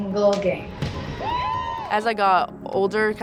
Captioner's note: players cheer